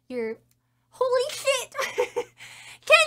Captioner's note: laughing